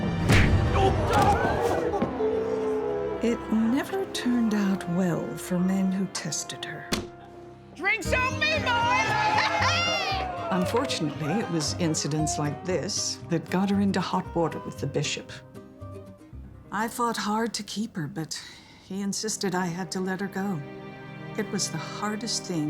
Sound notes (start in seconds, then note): 0.2 punch; 8.2 laughter, cheers